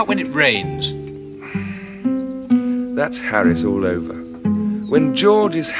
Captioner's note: sighing